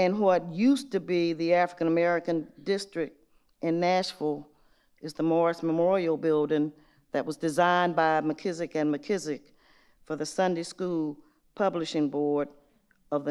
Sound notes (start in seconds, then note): none